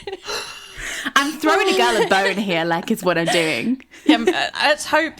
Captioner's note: laughing